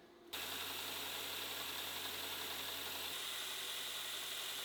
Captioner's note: machine motor hums